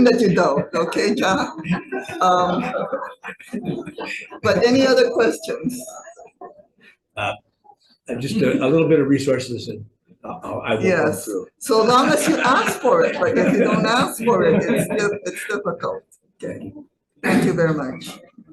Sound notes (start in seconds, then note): 0.0 audience laughing; 11.6 all laughing